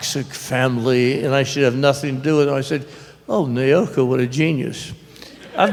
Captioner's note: laughter